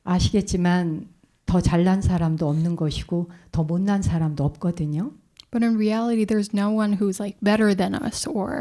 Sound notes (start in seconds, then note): 0.7 speaking in Korean